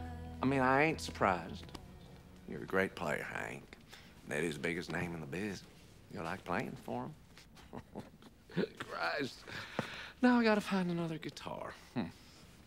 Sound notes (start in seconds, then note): 7.4 chuckling